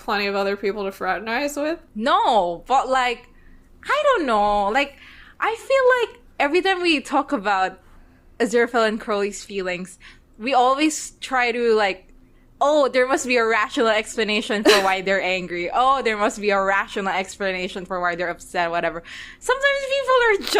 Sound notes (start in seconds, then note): 14.7 laughs